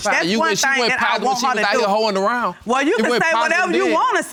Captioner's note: interrupting